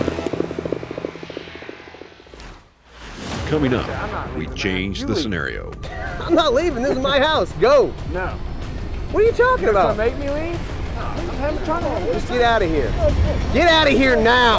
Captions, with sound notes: - [Voiceover] Coming up, we change the scenario. - I'm not leaving this is my house, go! - No! - What are you talking about? - You gonna make me leave? - Just get outta here. Get outta here now!